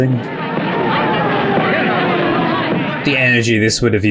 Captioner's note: distant sirens wailing